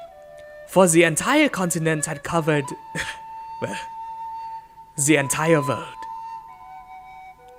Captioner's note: chuckles